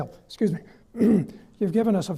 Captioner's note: coughs